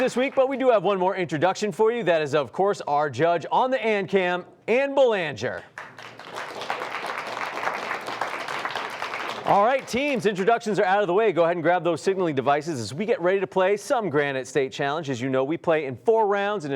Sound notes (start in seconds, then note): 5.6 applause